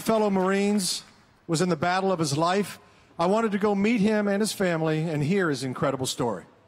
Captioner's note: applause